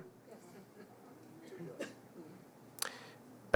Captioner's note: audience murmurs, laughs